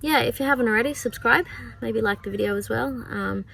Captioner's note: wails at game in background